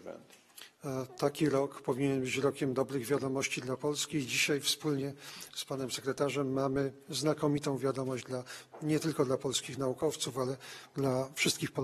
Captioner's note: speaking polish